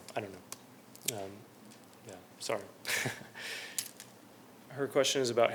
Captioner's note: laughter